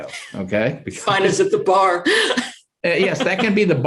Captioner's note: chuckles